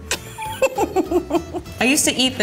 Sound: laughing

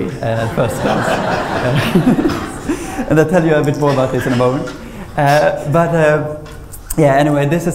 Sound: laughter

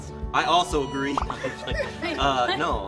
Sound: laughter

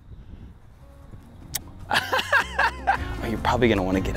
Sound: laughter

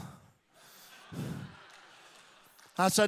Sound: audience laughing

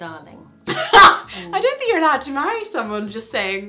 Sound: laughs

